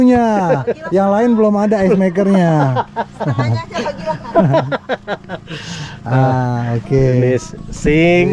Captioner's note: laughs